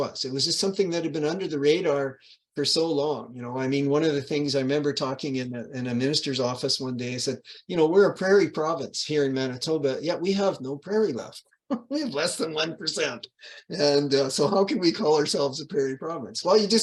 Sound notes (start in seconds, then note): 11.7 laughs